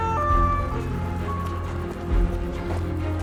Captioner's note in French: sirènes de police; les sirènes s'éloignent